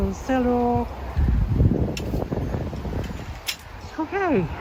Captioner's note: wind whooshing